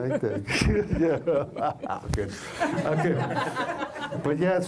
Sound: laughter

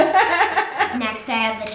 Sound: laughing

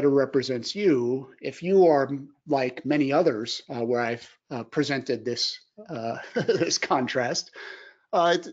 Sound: chuckles

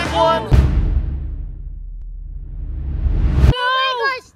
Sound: sonic blast

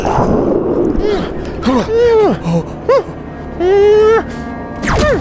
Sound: margore roars; gun zaps

